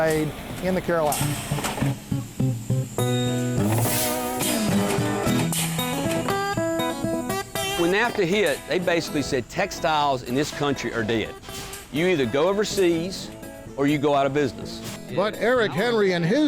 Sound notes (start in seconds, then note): 2.4 steaming